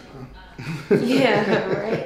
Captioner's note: laughing